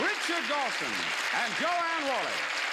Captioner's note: cheers and applause